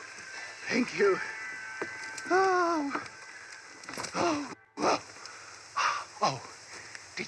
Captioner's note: relief and sigh